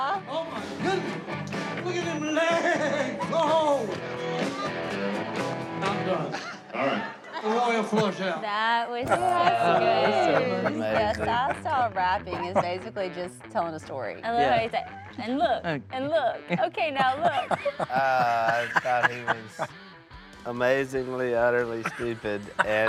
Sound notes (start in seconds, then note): 2.5 rock music; 17.6 Si laughs